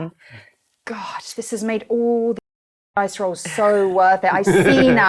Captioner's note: beep